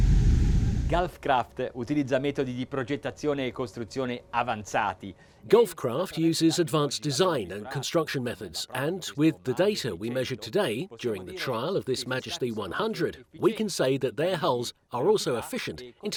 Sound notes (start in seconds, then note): 1.2 speaking foreign language